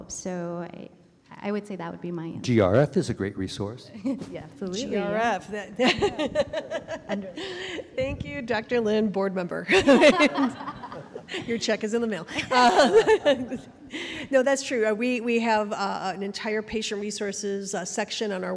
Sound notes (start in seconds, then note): 9.8 panelists laugh; 13.7 laughs